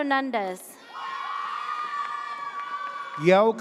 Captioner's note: audience cheers